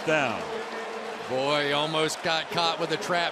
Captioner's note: pa announcement